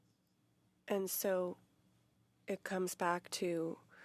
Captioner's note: speaking French